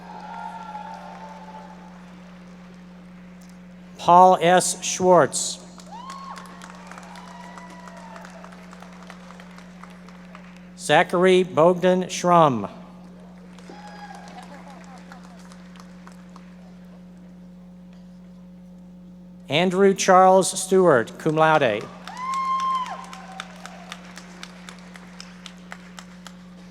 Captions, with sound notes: (audience members cheering and applauding) Paul S Schwartz. (audience members applauding) Zachary Bogdan Shrum. (audience members applauding) Andrew Charles Stewart, cum laude. (audience members cheering and applauding)